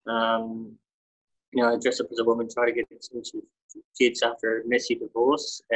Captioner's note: audio distorts